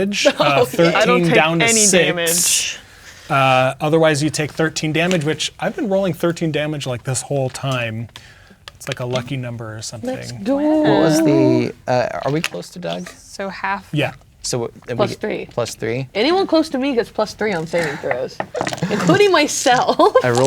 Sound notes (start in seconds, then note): 0.2 laughing; 10.3 sing-song; 19.6 dice rolling